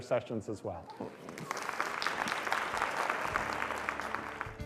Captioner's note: applause